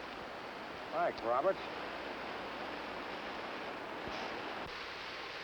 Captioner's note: water rushing